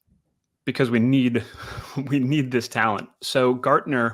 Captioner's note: laughs